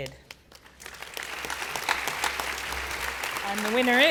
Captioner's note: applause